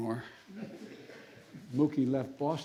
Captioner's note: laughter